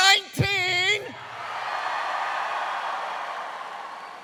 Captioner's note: cheers